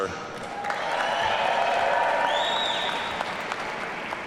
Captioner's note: audience cheering